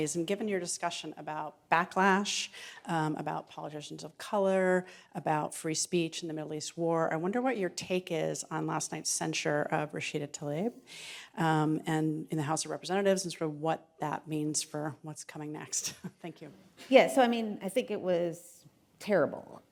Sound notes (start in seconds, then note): 15.8 chuckles